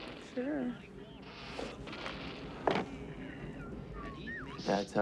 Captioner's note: wind howling